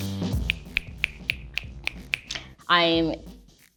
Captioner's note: light music; fingers snap